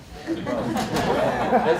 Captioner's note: laughter